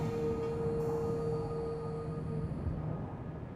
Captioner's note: wind blowing